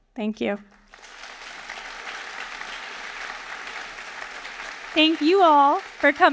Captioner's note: audience applauding